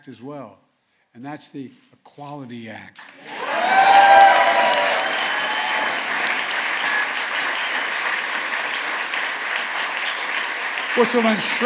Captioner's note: applause